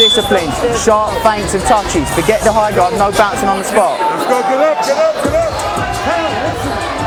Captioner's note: whistle